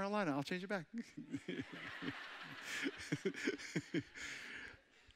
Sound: all chuckling

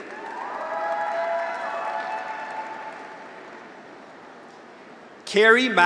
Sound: graduates cheer; audience applauds

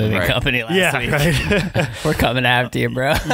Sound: laughing

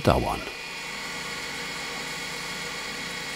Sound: loud machine whirring

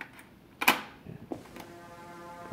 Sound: close. Click

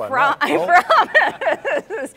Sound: laughs

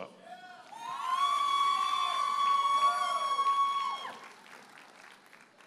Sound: audience cheers and applauds

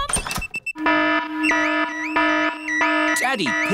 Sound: alarm blaring

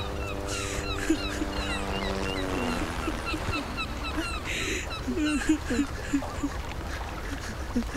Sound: sobbing

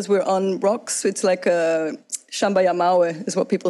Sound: speaks foreign language

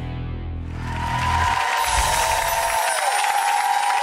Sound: applauding

